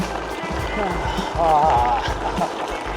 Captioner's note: exclaims